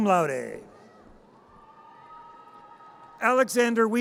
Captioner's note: audience cheers